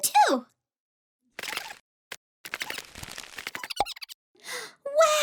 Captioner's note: chittering